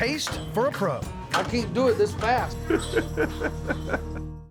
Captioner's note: laughing